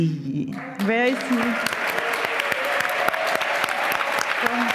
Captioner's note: applause